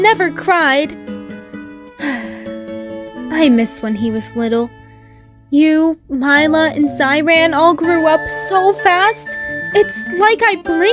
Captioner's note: sighs